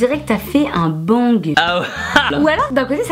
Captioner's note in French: Rires